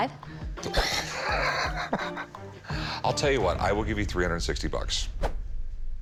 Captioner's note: laughs